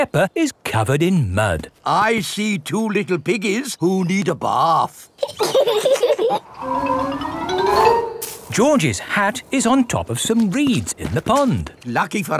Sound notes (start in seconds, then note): 5.2 both laughing